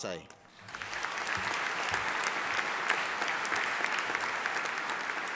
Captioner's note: audience applauding